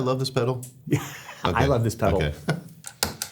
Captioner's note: laughing